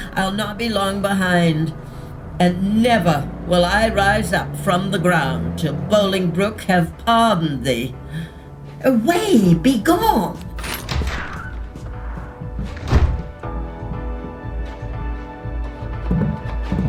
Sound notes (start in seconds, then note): 10.3 door opening; 10.4 keys jingling; 12.7 door closing; 16.6 motorcycle engine revving